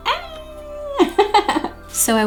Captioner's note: laughing